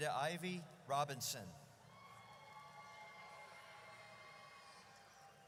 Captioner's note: audience cheers